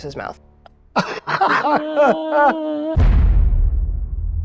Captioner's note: cast laughs